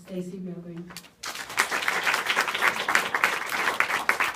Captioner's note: applause